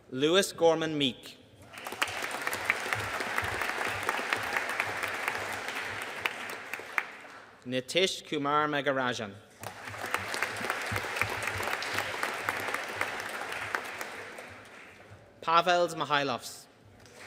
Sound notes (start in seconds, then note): 1.6 audience applauding; 9.6 audience applauding